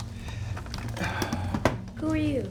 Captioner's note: sighs